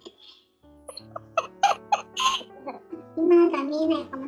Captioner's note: laughs